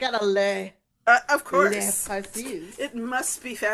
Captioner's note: in the worst French accent ever